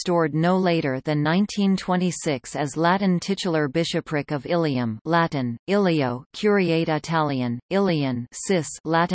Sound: Latin

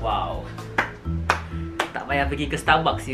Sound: clapping sounds

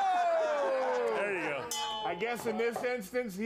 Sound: bell rings

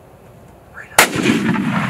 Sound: rifle shot

